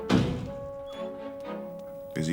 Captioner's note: dog whines